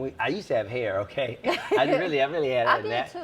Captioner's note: laughs